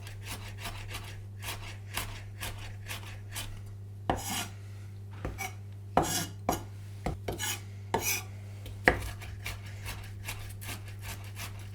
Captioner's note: grating sounds